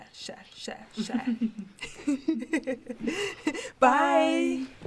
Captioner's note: giggles